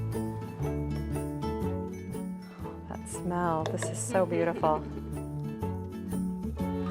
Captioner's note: chuckling